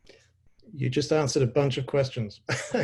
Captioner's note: laughs